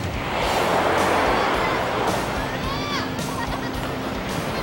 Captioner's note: waves crashing the shore; kids laughing